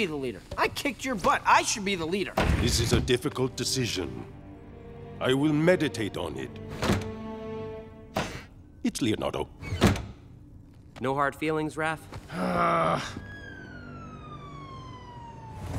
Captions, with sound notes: I kicked your butt, I should be the leader. This is a difficult decision. I will meditate on it. [door shutting] It's Leonardo. No hard feelings, Raph? [groaning] [sirens blaring]